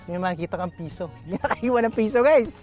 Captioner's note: chuckles